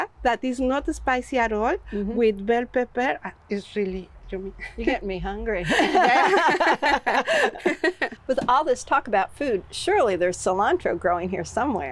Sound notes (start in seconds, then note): 8.4 both laugh